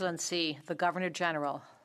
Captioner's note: speaking in French